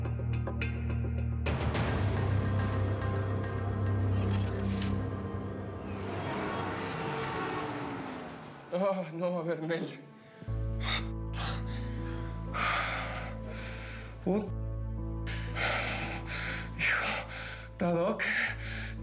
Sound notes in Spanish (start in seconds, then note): 8.9 salvador murmura y jadea; 13.2 exhala